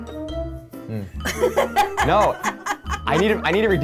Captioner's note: laughing